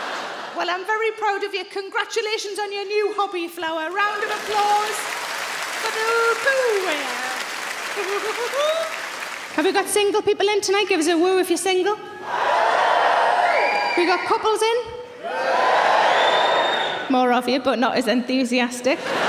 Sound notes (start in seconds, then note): 8.0 sarah chuckles; 12.2 audience cheering; 18.9 audience laughing